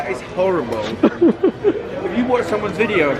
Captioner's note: laughing